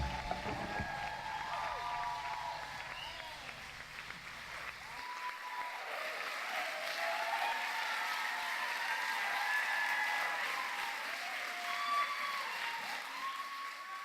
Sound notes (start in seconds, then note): 0.5 audience cheering and applauding